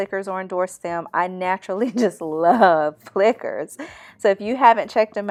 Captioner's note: chuckle